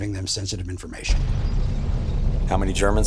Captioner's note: bomb rumbling